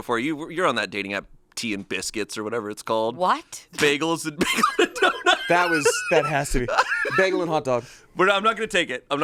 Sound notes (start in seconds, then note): 4.4 laughs